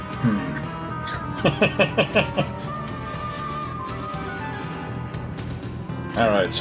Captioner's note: laughs